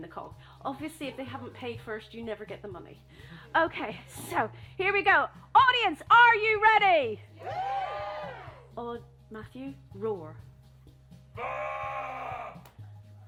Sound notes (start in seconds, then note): 7.3 whoops and cheers; 11.4 roars